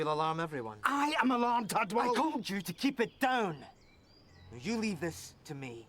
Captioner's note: mutters